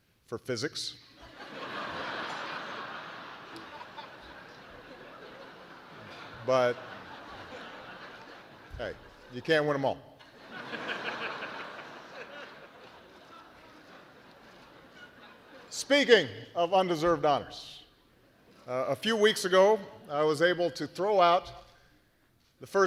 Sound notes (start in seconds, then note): 2.6 laughter; 14.8 laughter